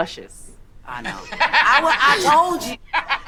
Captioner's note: man laughing